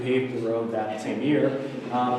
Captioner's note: audience laughter